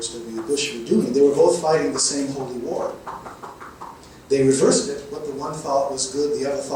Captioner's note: someone knocking on door